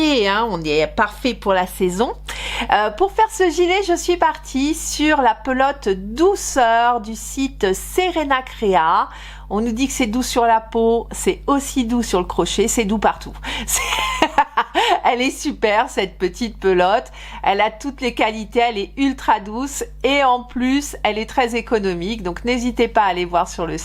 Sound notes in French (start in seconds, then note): 13.7 rires